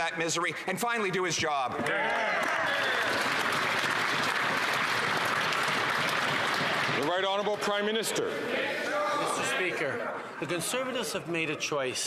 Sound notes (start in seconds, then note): 6.6 some Applause